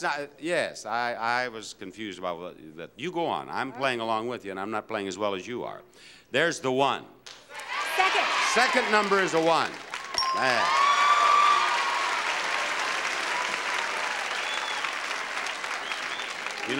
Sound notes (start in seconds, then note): 10.1 bell dinging; 11.4 audience cheering; 12.9 audience applauding